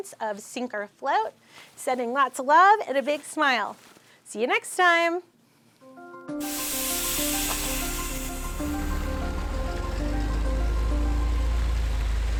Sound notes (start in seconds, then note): 6.3 upbeat music; 6.5 bus engine humming